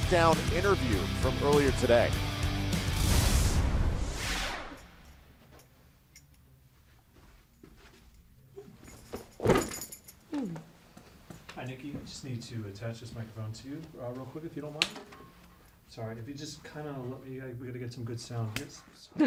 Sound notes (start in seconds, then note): 16.1 slapping